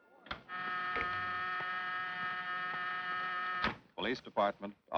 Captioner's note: phone buzzing